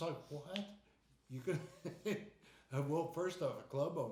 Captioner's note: laughing